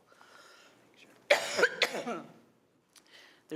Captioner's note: coughs